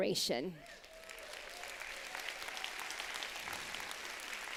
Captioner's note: applause